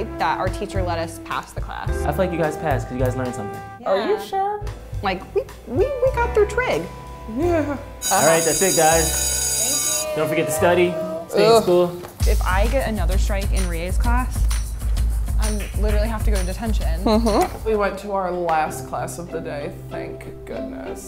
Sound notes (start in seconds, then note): 8.0 bell ringing